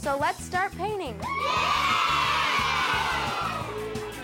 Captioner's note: children all cheer